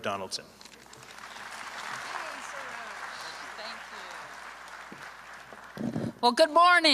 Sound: applause

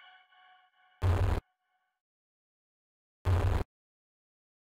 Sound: static buzz

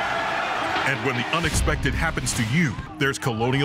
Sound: cheering; voiceover

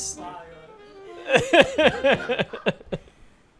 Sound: laughs

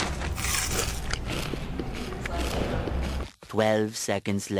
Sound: ASMR eating noises

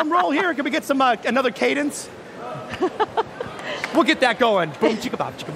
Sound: laughter; laughter

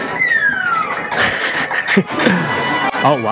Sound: game music & sound effects; chuckle

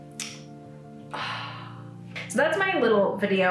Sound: sighs

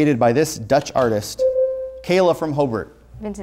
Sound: buzzer sounds

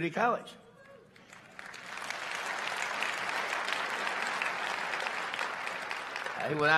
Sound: applause

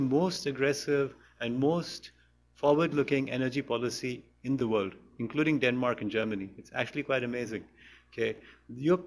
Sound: none

